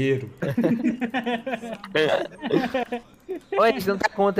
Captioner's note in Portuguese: risos